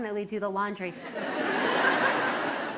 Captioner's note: laughter